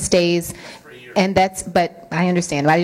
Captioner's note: man grumbles